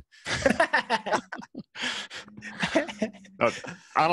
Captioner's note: laughs